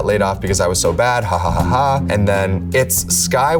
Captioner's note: laughs